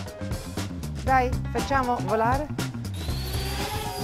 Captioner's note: speaks in Italian